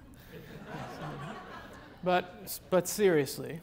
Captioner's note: audience laughs